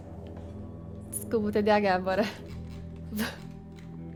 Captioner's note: chuckles